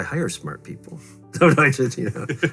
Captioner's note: laughs